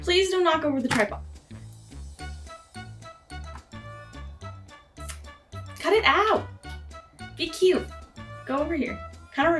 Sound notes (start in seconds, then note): 1.2 bonk; 5.0 aggressive lip smack